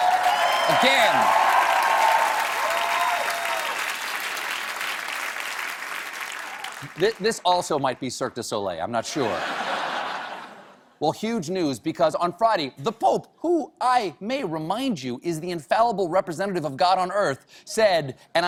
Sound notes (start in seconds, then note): 0.0 cheers and applause; 7.7 applause